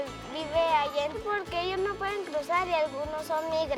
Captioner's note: speaking spanish